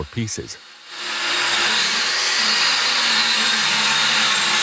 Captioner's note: grinding sound